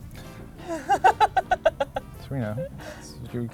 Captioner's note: laughs loudly